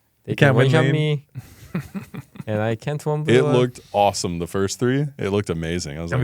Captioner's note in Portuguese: risos